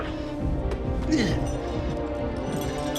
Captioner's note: grunts